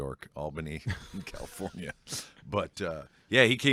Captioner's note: laughs